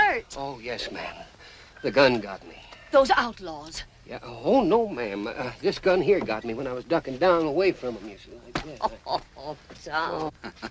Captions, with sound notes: Oh, yes, ma'am. The gun got me. - Those outlaws? - Yeah-- Oh, no, ma'am. This gun here got me when I was ducking down away from them. [ SHE LAUGHS ]